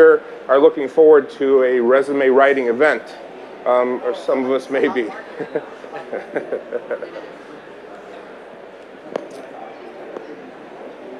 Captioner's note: laughter